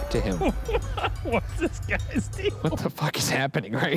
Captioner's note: laughs